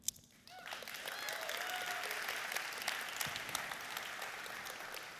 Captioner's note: applauding and cheering